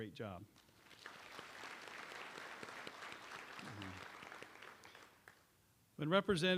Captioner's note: applause